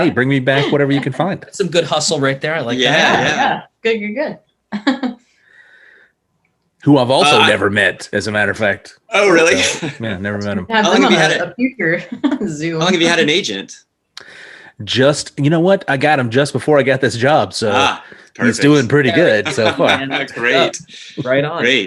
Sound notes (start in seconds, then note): 4.8 chuckles